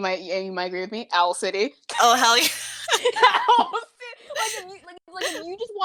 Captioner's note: through laughter